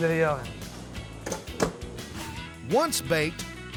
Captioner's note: oven door closes